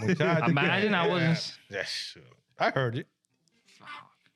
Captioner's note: laughing